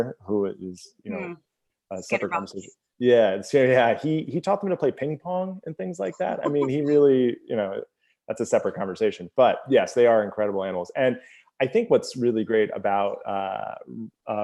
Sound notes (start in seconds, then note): 6.1 laughs